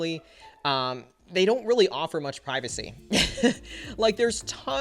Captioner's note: chuckles